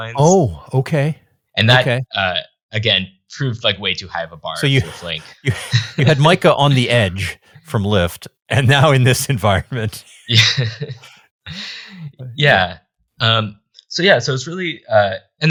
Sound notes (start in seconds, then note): 4.6 chuckles; 11.2 laughs